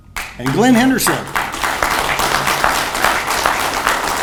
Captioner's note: audience applauds